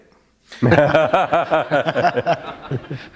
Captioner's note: laughter